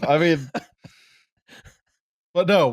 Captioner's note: laughter